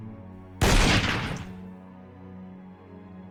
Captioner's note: gun blast